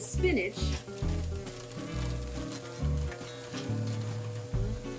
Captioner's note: bag crinkling